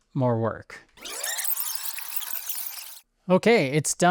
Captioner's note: audio tape squealing